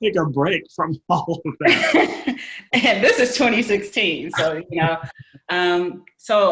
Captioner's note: laughing